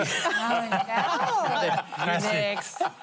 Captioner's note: laughter